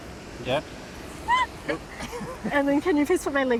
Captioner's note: laughs